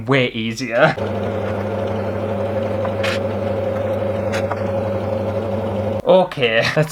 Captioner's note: sewing Machine Motor